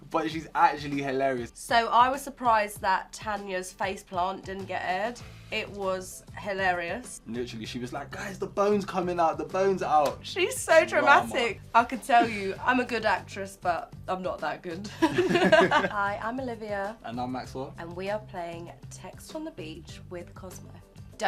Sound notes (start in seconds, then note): 14.9 laugh